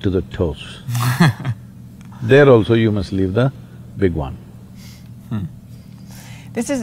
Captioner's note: laughs